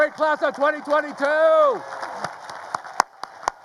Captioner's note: staff claps